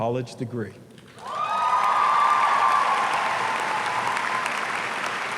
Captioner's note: audience cheering